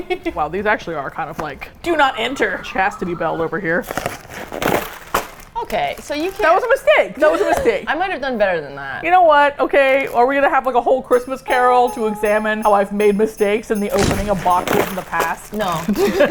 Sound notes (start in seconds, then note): 0.0 laughs; 3.8 cardboard rips apart; 15.8 both laugh